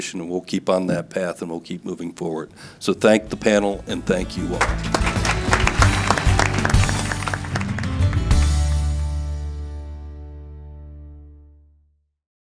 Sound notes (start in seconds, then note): 6.8 audience clapping; 6.8 upbeat music